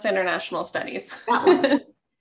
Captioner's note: laugh